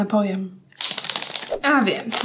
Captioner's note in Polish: odgłos produktu w opakowaniu